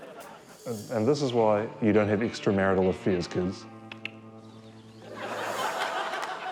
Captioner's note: clicks tongue; laughter